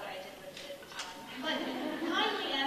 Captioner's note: audience laughing